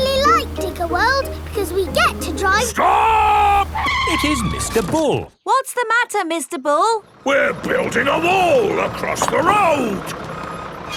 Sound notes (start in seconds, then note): 4.4 tires screeching